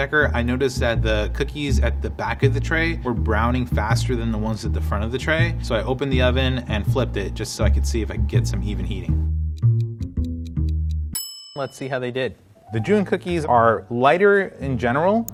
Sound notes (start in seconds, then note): 9.4 timer ticking; 11.1 timer ringing